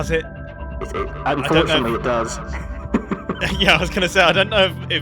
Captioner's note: laughs